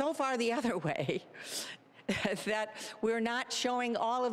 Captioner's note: chuckling